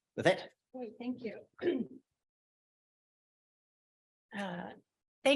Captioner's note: clears throat